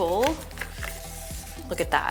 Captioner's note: cable rustles